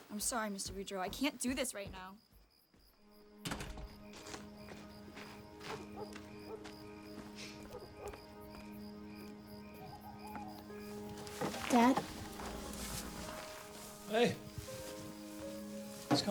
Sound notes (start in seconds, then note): 3.4 door bangs shut; 5.6 dog barks distantly; 5.7 gentle somber music